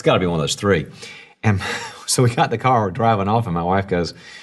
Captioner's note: laughs